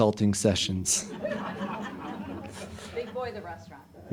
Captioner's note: audience laughing